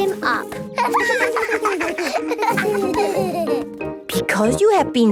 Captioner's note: laughter